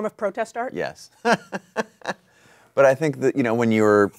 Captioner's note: laughs